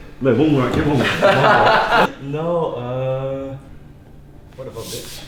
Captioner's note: short laughter